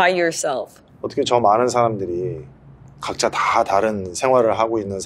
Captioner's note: speaking in foreign language